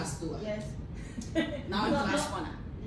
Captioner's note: laughter